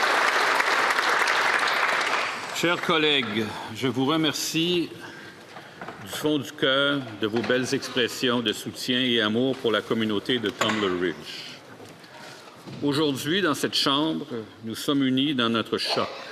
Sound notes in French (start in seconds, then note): 0.0 applaudissements